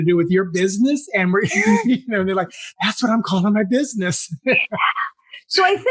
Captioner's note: laugh